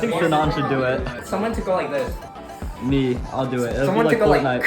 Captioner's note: drinking